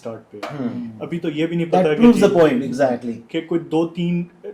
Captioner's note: clearing throat